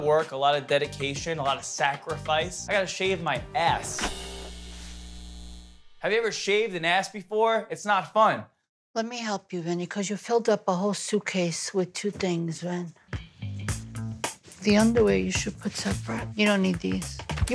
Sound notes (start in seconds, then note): 3.9 razor buzzing; 13.1 rhythmic music